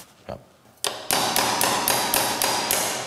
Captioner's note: hammering